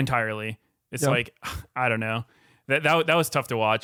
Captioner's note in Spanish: suspira